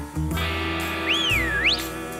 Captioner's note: whistles